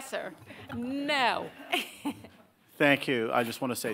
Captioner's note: laughing